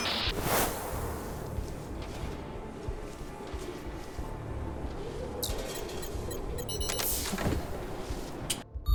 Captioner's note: beeping